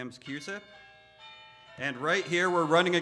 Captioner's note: bells ringing